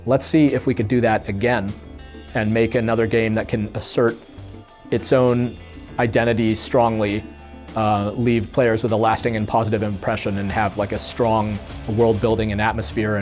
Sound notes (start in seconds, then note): none